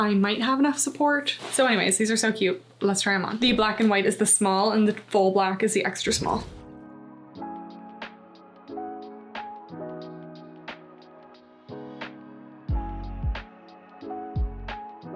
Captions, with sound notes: I might have enough support. So, anyways, these are so cute. Let's try 'em on. The black and white is the small, and the full black is the extra small. [smooth music] [graphic whooshing]